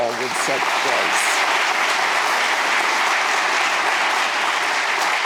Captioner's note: audience applauding